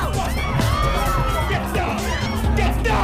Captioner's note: customers screaming